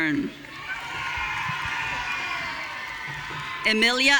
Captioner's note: audience cheering